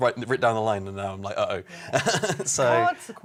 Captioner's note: laughing